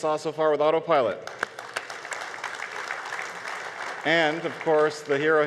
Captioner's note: audience applause